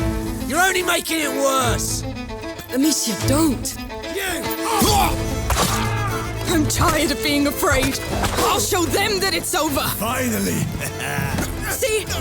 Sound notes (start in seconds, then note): 10.4 laughs